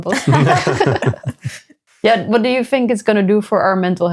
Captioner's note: both laughing